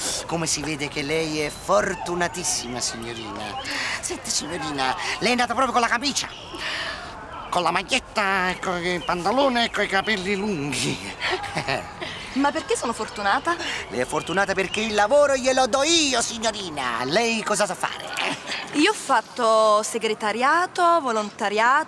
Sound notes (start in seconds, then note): 11.3 laughs